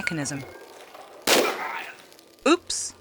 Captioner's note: bam